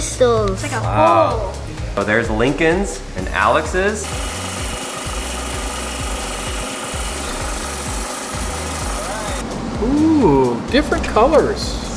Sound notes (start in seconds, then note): 4.1 stone cutting